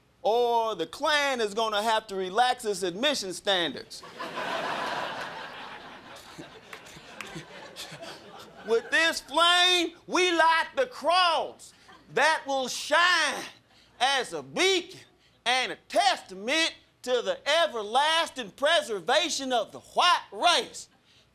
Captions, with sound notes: or the Klan is going to have to relax it's admission standards. [crowd laughing] With this flame we light the cross that will shine as a beacon and a testament to the everlasting preservation of the white race!